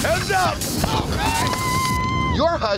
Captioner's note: cheers